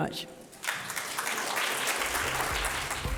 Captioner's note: audience applauds; upbeat electronic music